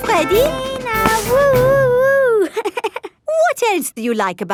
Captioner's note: chuckles